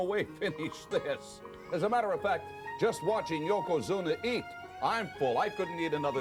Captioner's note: laugh